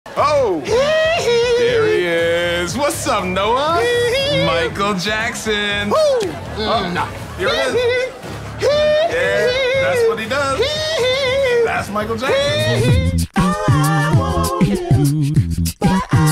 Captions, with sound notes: - Oh. (cheering) There he is. What's up Noah? Michael Jackson. No. (sharp screems) That's what he does. That's Michael Jackson. (soft rock music)